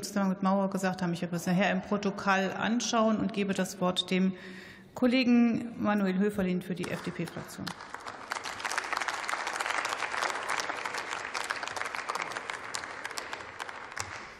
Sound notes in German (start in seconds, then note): 7.6 Beifall